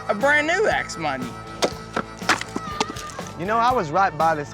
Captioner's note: chopping